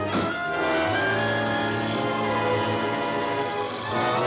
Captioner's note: car Door Closes